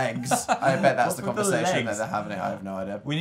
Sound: laughs

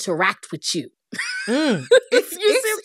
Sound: laughter

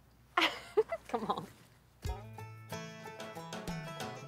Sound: laughs

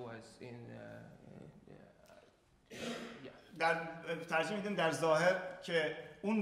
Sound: speaking in farsi

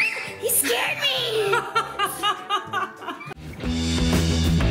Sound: screams; laughs; rock music

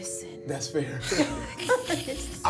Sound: all laughing

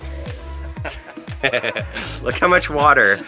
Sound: laughs

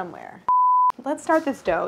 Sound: beep

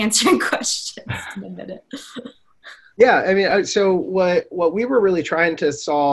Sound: chuckles

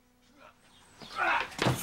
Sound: grunt

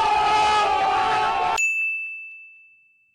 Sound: crowd oooh'ing; ding

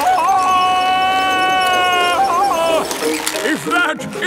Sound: yelling

